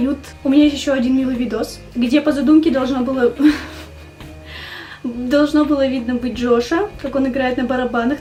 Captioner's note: stupid laugh